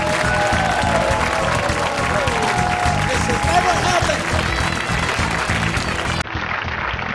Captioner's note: upbeat music; clapping